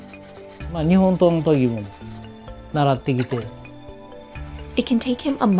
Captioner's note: speaking foreign language